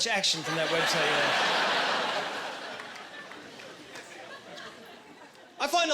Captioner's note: laughing